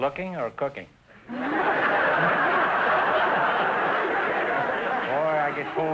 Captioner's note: audience laughter